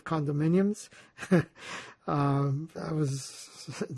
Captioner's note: laughing